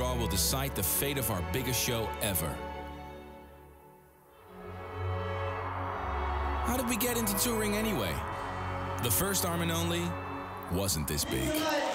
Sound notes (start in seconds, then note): 4.2 dramatic music; 4.4 crowd cheering